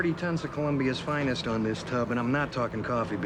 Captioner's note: none